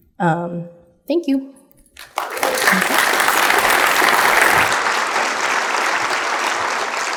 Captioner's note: audience applauding